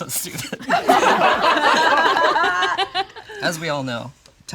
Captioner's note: all laugh